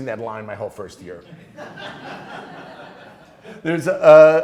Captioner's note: class laughing